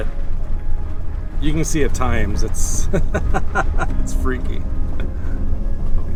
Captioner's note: laughter